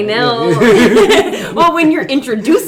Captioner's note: laughing